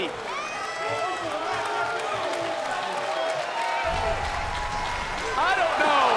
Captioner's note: crowd cheering and applauding